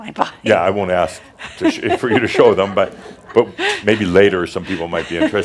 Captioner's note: she chuckles